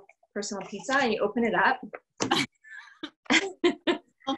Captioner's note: laughter